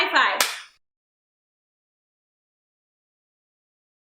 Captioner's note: hand clap